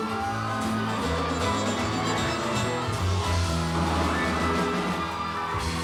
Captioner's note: audience applauds